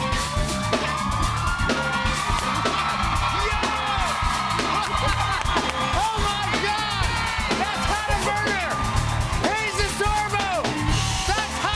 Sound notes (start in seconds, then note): 2.1 cheers and applause